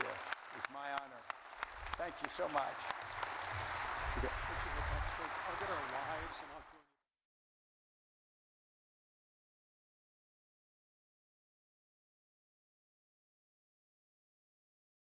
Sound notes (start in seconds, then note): 3.1 audience applauding